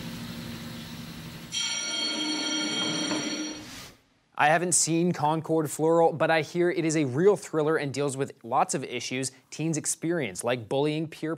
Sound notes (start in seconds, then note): 1.5 school bell ringing